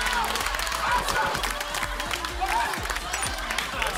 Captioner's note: applause